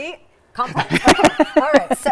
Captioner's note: laughing